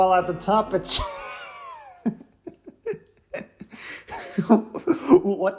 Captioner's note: laughter